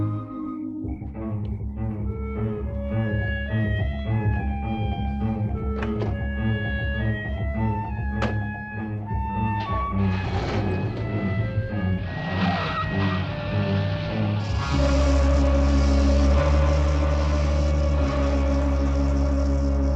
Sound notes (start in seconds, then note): 2.0 suspenseful music; 10.1 car engine rumbling; 12.5 tires squealing; 14.7 snake rattling; 14.7 suspenseful music